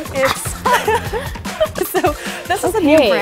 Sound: both laugh

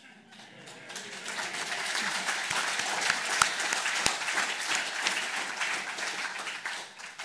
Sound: applause

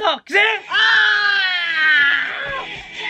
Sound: screams

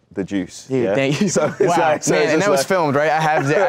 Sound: laughs

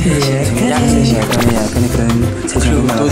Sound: addictive intonation

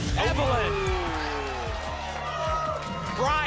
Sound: applause

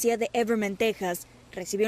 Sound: HABLA EN INGLéS

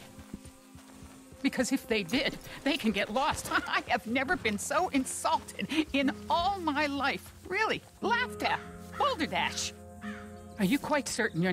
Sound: laughs

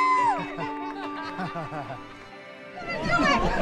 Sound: crowd laughs; crowd chattering

